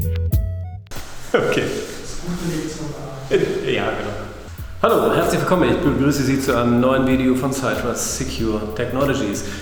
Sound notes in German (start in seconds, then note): 1.3 Lacht